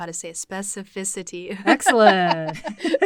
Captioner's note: chuckles